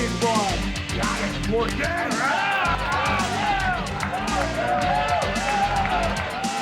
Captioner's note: group cheering and chattering